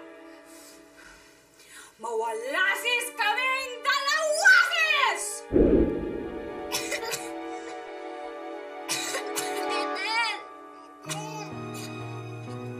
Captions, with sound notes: May the two of us Be gone without a fuss [gong bongs] [Gretel coughs] Ethel.